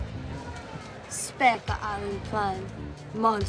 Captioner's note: speaking romanian